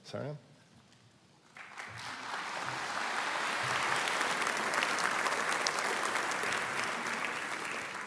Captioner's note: applause